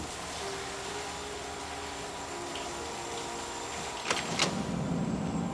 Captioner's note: shower water splashing